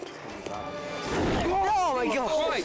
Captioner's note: all shouting; flames whoosh